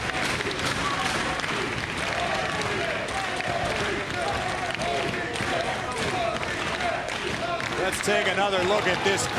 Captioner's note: crowd cheering